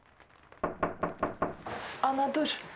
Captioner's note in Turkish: Kapı sesi